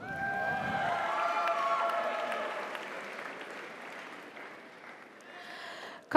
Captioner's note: audience cheers; audience applauds